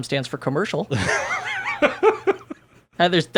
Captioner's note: laughing